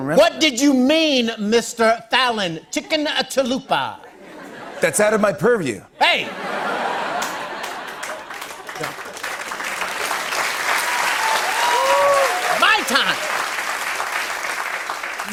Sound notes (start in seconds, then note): 6.1 laughter; 6.8 cheers and applause